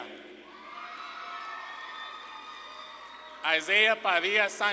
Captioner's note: audience claps and cheers